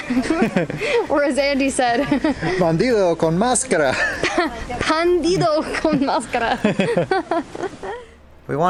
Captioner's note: laughter; laughter